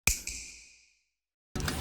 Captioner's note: snap